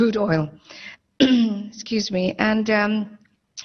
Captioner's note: clears troat